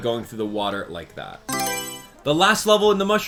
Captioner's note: Mario Selection Sound